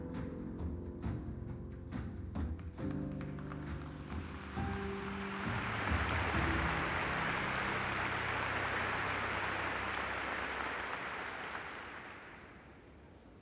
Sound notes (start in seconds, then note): 2.8 applause